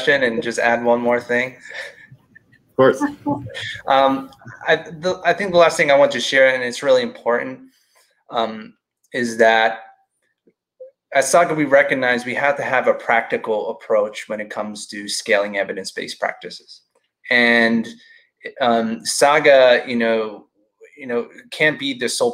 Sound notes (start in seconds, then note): 2.8 laughing